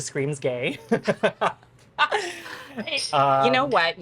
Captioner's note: both laughing